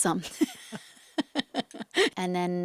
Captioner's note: interviewer and Zoe laugh